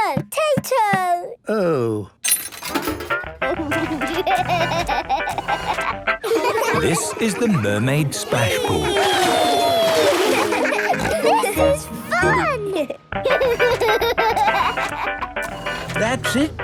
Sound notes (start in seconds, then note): 3.3 upbeat music; 4.6 giggling; 11.2 giggles, snorts; 13.2 giggling; 15.3 music fades